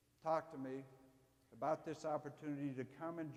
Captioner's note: none